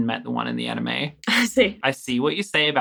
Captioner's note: laughing